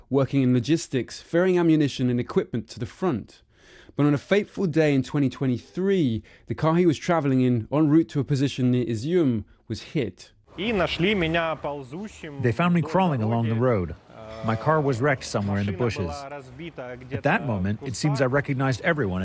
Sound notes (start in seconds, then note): 12.9 through translator